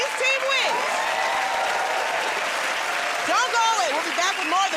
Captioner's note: cheers and applause